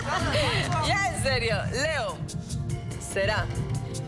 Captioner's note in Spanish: Risas